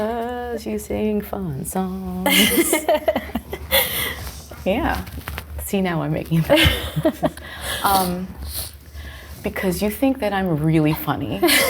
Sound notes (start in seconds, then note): 2.2 both laughing